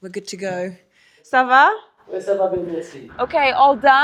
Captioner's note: both speaking in foreign language